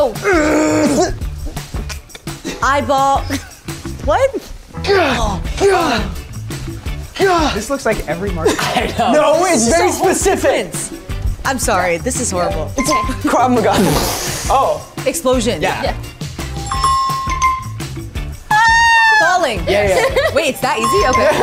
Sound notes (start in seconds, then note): 0.1 groans; 16.5 app chimes; 18.6 actors shouting; 19.7 Mary laughs